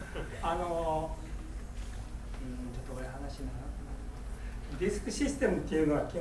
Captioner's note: speaking in foreign language